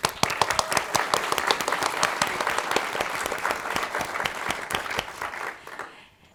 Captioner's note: applause